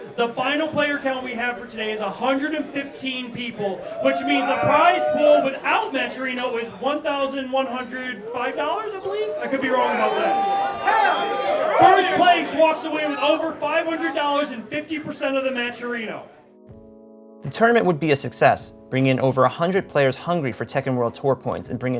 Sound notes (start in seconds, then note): 10.3 cheering